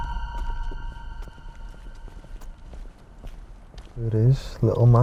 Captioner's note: tense music; footsteps